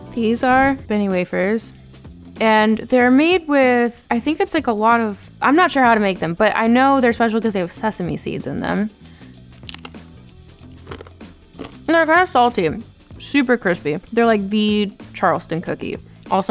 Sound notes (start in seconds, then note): 10.8 wafer crunching